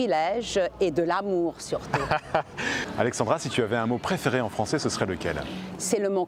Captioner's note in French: rires